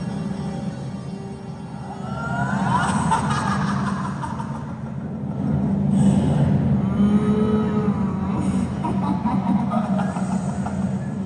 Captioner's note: Horrorcle: Maniacal Laughter